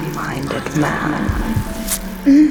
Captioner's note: insect stings; moans